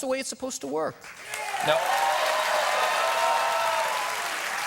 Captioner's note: applause